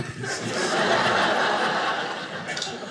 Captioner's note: audience laughing